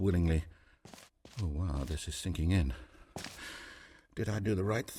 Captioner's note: sigh